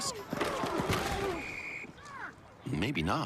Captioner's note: SFX: Crash of football players colliding off-camera